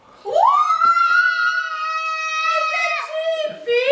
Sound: screaming

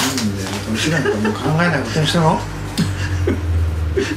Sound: laughs

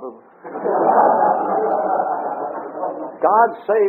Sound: audience laughter

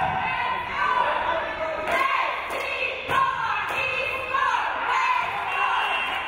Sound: crowd

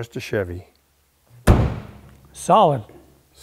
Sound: door thudding

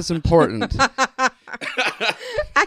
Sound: laughter

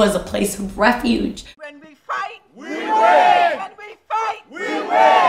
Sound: chanting

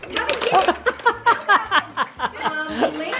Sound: laughing

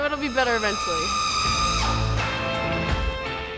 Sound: squealing; rock music

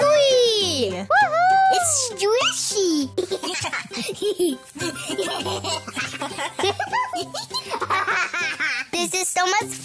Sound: laughter

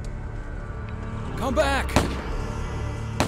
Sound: gun shots

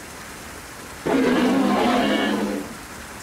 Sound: beasts roaring

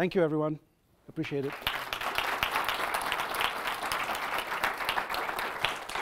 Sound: audience applauds

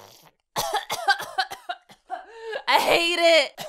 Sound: coughs

